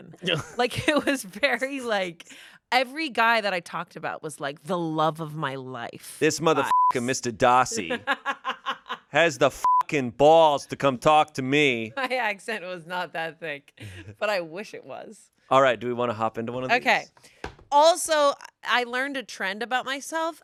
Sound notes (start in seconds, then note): 6.5 beep; 7.7 laughs; 9.6 beep